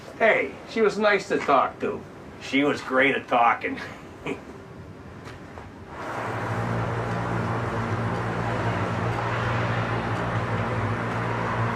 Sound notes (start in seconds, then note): 5.4 laughs; 6.0 suspenseful music